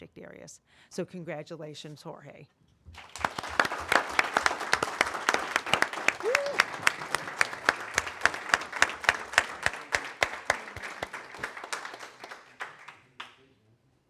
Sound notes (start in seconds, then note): 2.9 applause